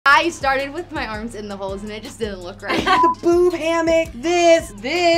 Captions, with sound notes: - I started with my arms in the holes and it just didn't look right. (group laughs) - Boob hammock. This, this.